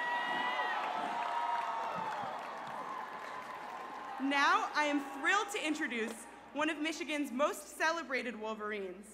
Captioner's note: cheers and applause